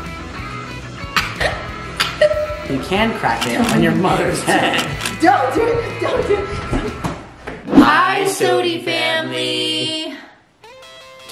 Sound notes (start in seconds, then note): 1.1 coughs